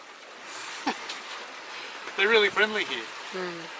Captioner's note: laughs